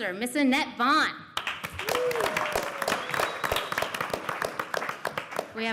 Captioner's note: applause